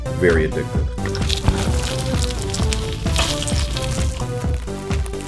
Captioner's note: Cheetos crunching